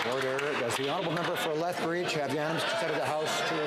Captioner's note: some Applause